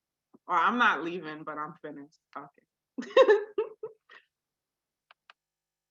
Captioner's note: giggles